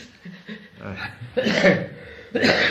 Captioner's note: laughs